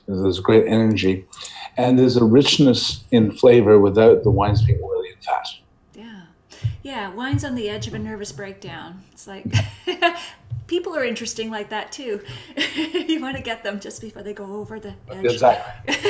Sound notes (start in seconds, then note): 10.1 laughs; 12.2 laughs